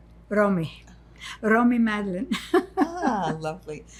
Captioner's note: laughing